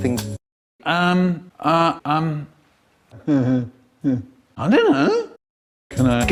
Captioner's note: over the radio